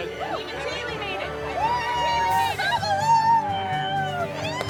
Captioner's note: cheering